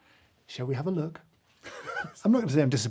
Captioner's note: chuckles